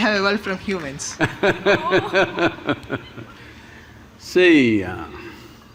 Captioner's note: Sadhguru Laughs